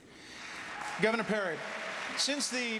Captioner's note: applause